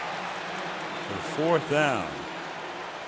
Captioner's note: pa announcement